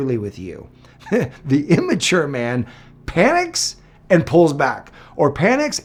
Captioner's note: chuckles